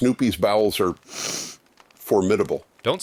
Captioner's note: sniffs